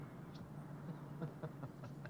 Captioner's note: crace laughing